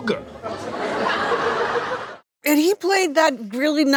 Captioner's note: audience laughing